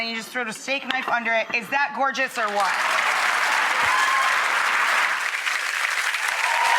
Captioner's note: audience applauds